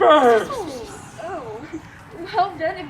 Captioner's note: whispering